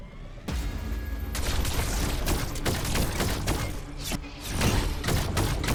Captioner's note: shooting